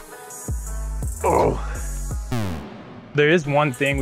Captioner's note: groans